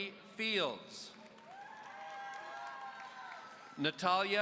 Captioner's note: audience cheering